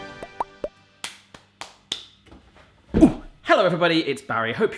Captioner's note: upbeat music; clapping